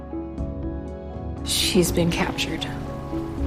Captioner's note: voiceover